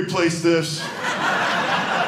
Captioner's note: audience laughing